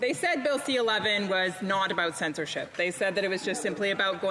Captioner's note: speaking French